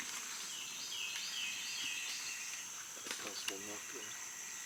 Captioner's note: sticks and leaves crunching